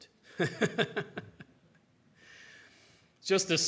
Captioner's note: chuckles